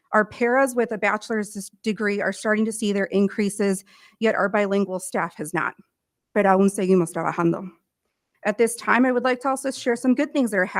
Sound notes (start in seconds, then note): 6.5 speaking in foreign language